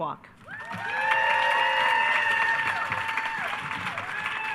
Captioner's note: attendees cheering